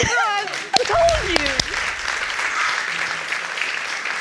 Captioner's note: audience applauding